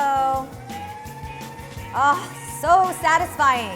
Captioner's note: machine whirs